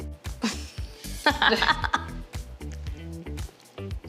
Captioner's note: laughing